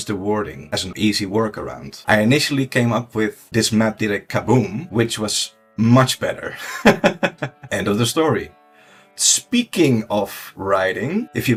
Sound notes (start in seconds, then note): 6.6 laughs